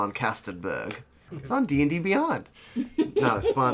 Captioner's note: chuckles